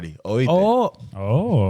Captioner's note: speaking In Foreign Language